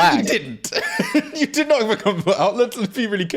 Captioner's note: laughing